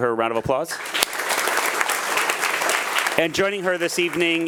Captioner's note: attendees applauding